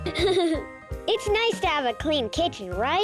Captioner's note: laughs